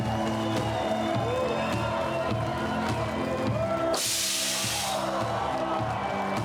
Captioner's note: cheers and Applause